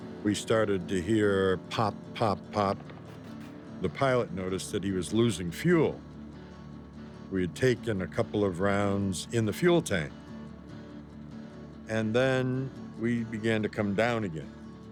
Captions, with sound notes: We started to hear pop, pop, pop. (guns firing) The pilot noticed that he was losing fuel. We had taken a couple of rounds in the fuel tank. And then we began to come down again.